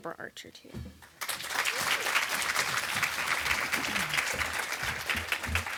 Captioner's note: audience applauding